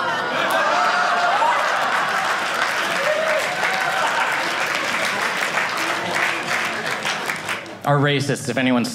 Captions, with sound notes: (audience laughing) (audience applauding) --are racists, if anyone's still